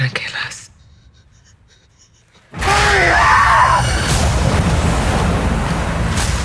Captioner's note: screams